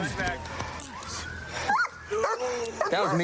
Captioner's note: dog barks